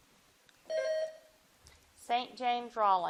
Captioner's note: bell dings